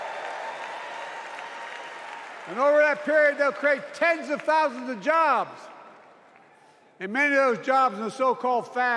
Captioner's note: cheers and applause